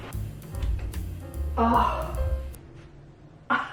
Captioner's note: gasps